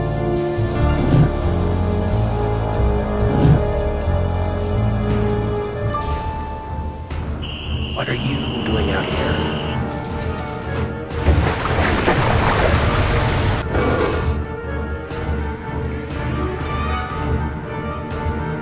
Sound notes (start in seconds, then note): 0.2 crickets chirping; 7.4 crickets chirping; 9.8 wheel cranking; 11.2 water gushing; 13.5 metal door sliding